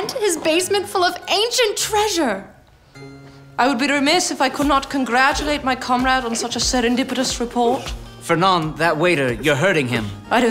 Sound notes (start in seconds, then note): none